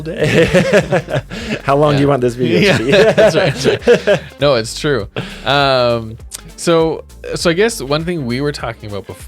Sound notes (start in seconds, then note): 0.2 both laugh